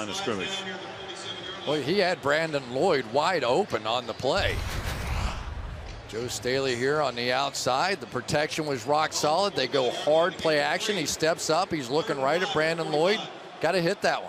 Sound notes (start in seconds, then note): none